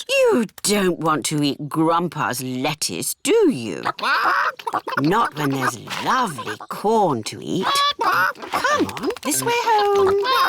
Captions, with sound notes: You don't want to eat Grandpa's lettuce, do you? (CHICKENS CHATTER) Not when there's lovely corn to eat. Come on, this way home.